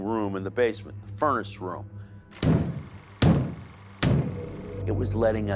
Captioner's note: loud knocking